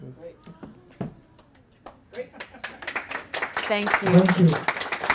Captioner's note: clapping